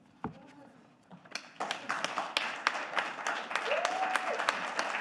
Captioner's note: audience applauding